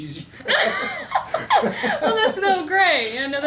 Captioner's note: laughs